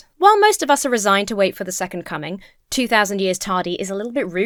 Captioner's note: none